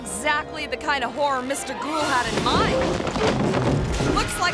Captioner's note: objects clattering